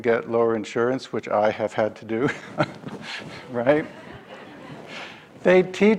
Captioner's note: laughs